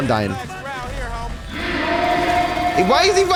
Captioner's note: voice echoes